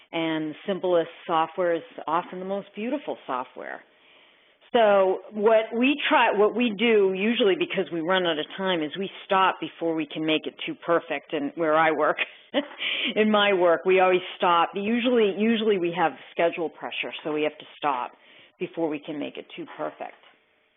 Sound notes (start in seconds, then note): 12.5 chuckles